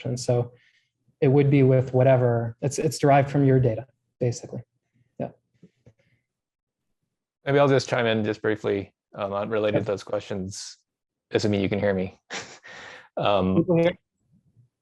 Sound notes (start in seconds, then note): 12.3 chuckles